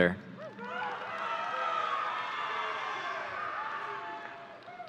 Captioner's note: audience cheering